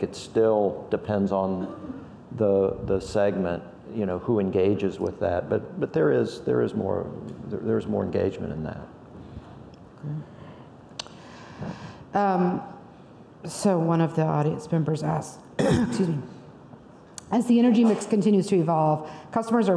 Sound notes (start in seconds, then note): 15.6 coughs